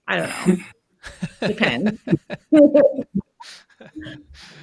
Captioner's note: laughing